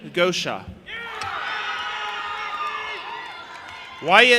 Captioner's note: audience applauding and cheering